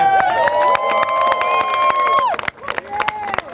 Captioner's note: applause